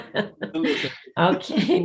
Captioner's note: laughing